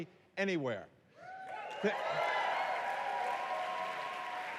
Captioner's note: applause